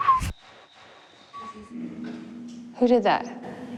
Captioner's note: whistles